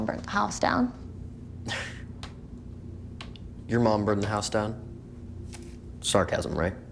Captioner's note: chuckles